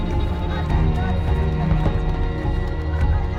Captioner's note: crying